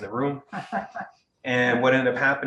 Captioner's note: woman laughing